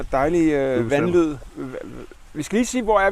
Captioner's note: confused mumbling